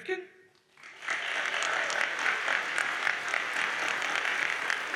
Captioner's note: audience applauds